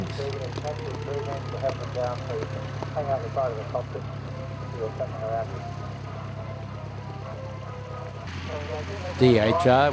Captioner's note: aircraft sounds